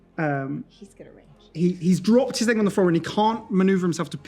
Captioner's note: whispers